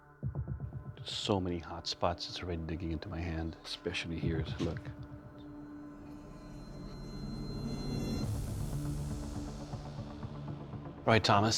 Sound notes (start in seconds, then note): none